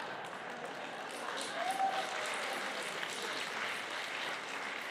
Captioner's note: applause